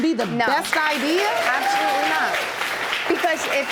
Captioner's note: audience applauds